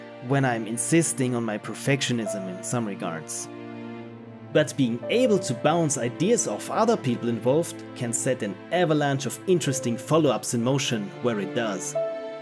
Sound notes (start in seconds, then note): none